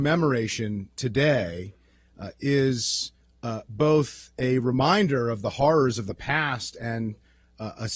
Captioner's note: hebrew